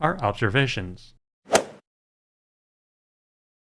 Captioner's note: swoosh